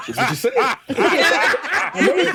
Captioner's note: laughing